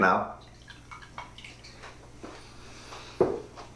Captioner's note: rum trickling